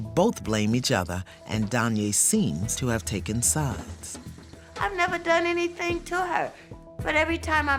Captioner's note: none